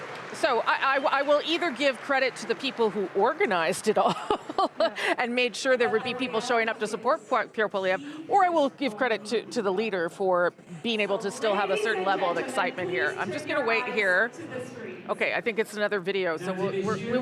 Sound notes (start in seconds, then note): 8.1 chuckles